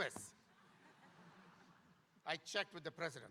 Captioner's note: audience laughing